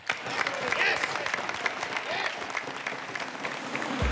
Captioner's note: people clapping